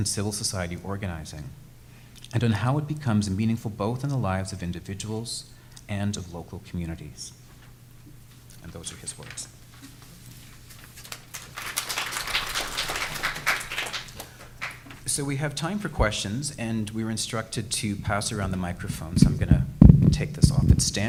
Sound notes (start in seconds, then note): 9.4 audience clapping